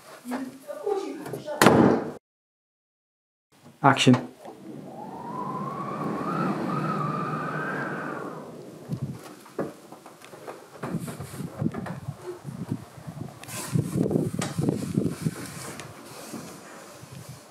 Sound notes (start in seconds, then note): 1.6 sound of door shutting; 5.6 sound of wind slipping through the doorway